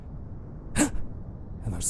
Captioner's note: gasp